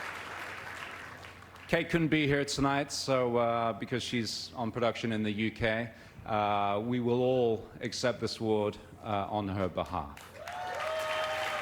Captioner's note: applause